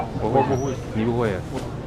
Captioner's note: mandarin